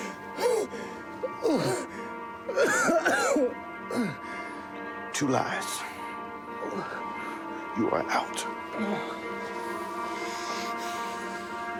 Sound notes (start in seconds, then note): 0.0 gasping; 8.8 dramatic music